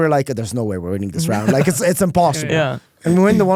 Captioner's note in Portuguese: risos